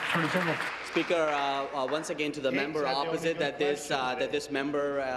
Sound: applause

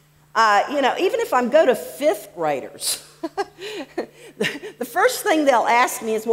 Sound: laughs

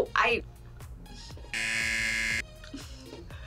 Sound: buzzer

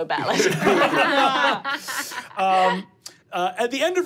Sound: laughing

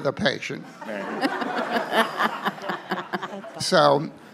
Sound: all laughing

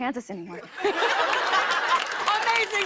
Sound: laughter and applause

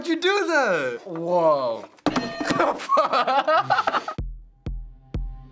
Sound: laughs

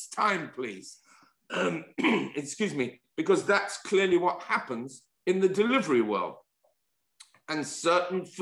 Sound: cough

